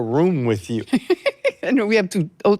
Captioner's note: laughing